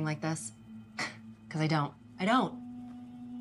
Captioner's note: scoffs